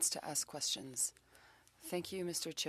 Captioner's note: speaking French